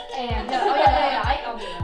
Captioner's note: laughter